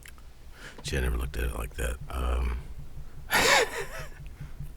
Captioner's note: laughs